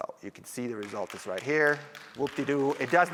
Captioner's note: applause